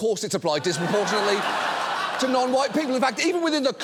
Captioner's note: audience laughs